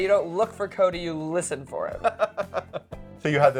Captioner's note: chuckling